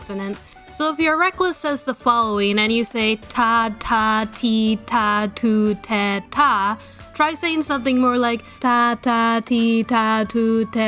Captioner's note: less aspirated Ts